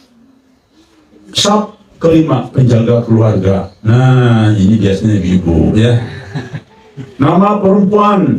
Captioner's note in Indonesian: tertawa